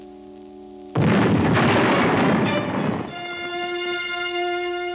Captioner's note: canon bangs